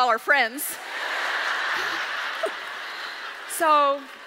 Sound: audience laughs

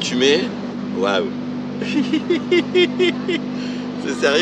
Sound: laughter

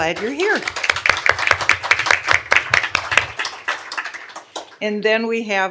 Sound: applause

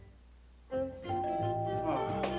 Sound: doorbell

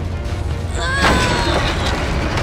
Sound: grunting

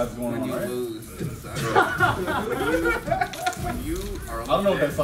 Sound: laugh

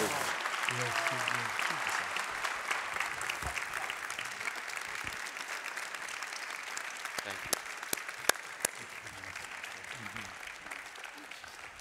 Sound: applause

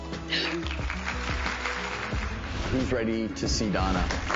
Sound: audience clapping

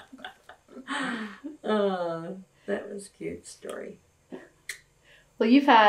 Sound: laughter

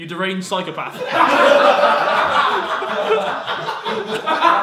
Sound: everyone laughing

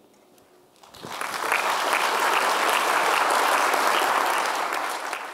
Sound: audience applause

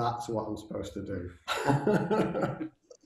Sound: laughing

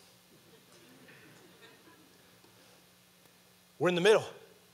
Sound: audience laughing

